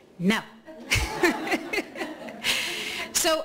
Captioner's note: laughing